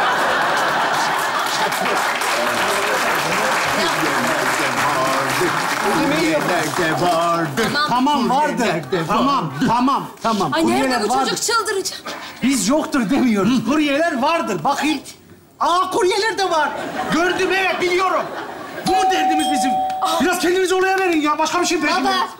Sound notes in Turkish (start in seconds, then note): 0.0 Kahkaha ve alkış sesleri; 18.8 Zil çalar